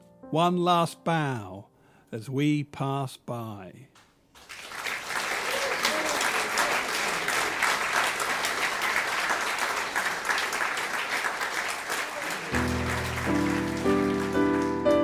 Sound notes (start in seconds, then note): 4.3 applause; 12.5 soft piano